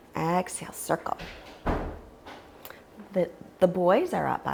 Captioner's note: door shutting